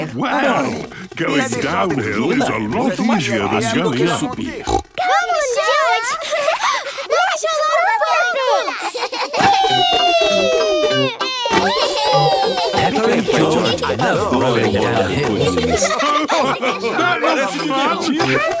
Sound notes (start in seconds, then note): 4.8 snorts; 6.6 laughs